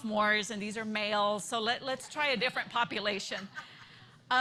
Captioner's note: laughter